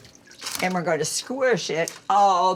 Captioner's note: none